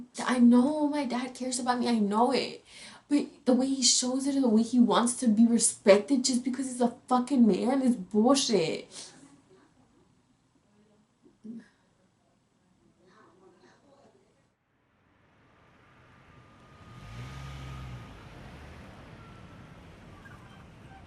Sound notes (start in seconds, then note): 9.5 sobbing; 14.9 car engine roaring